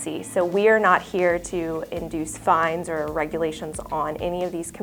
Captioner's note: none